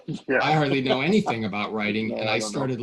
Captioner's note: laughing